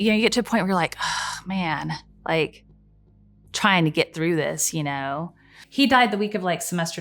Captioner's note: sighs